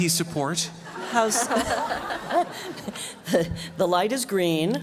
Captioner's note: laughter